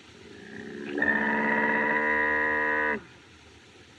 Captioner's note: groaning